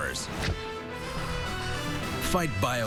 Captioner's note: exhalation, inhalation